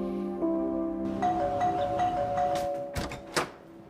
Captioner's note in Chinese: 門鈴聲